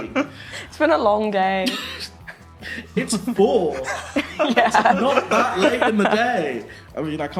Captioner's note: laughing